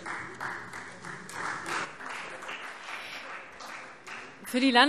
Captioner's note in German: Beifall Freie Demokraten